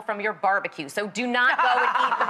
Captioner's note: laughs